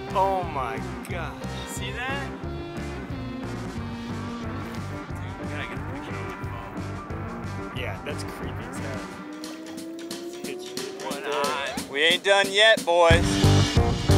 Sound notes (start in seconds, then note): 10.6 indistinct chatter from both